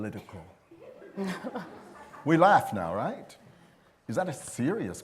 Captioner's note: laughter